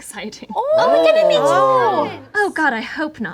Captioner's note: group chatters with enthusiasm and inquisitiveness